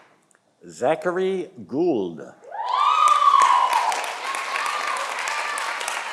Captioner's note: audience applauding